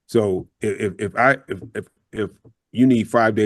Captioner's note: laughs